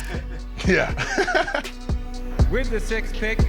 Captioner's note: laughs